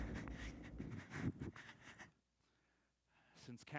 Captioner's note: breathes heavily